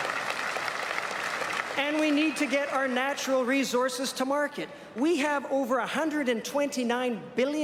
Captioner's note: applause